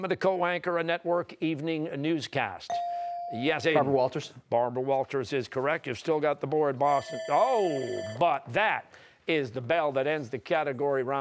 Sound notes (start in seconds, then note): 6.9 bell ringing